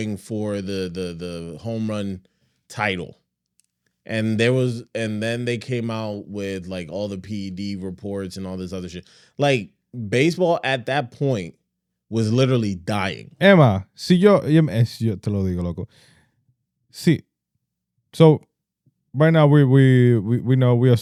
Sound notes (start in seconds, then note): 14.1 speaking In Foreign Language